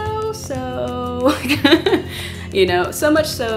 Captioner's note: laugh